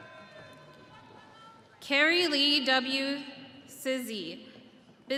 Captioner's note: audience cheering